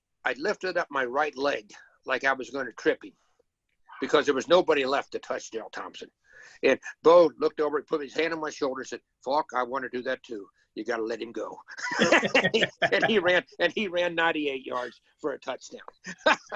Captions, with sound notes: I lifted up my right leg, like I was gonna trip him. Because there was nobody left to touch Darryl Thompson. And Bo looked over and put his hand on my shoulder said, "Falk, I wanna do that too, you got to let him go." (laughs) And he ran 98 yards for a touchdown.